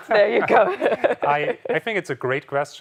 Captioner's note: laughs